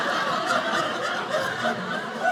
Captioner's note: audience laughing